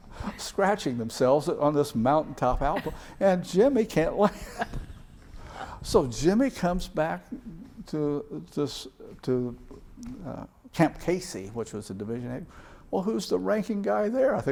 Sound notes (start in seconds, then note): 4.6 laughs